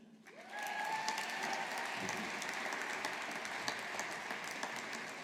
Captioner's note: audience applauding